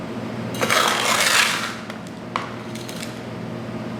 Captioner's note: scoop scraping